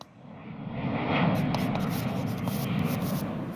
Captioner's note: airplane whooshing